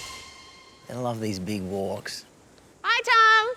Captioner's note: none